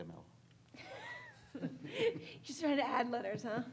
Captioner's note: laughing